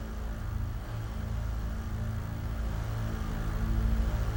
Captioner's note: none